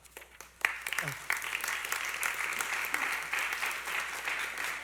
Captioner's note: applause